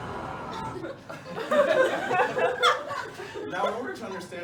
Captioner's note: laughter